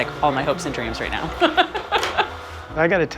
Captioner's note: laughs